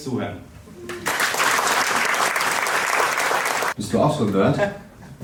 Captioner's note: crowd applauding